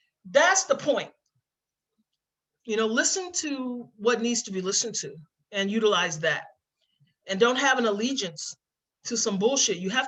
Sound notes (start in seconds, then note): none